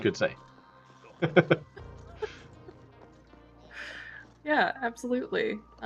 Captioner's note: laughs